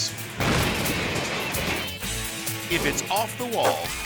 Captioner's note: metal crashing; energetic rock music